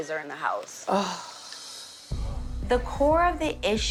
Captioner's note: sighs